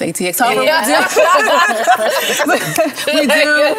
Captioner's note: laughter